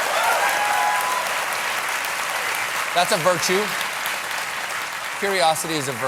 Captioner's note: cheers and applause